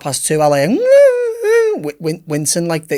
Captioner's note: Danny whimpers